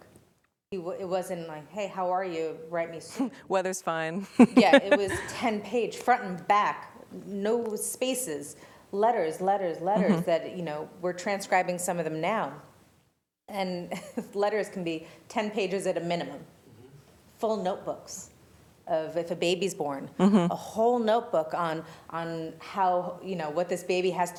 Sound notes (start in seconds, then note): 4.2 laughter